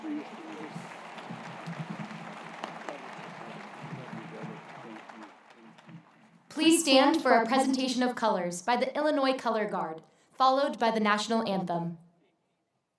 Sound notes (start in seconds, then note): 0.0 applause